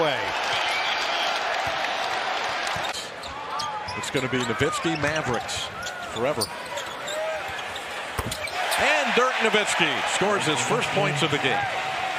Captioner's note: cheers and applause